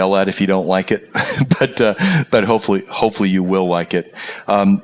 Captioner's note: laugh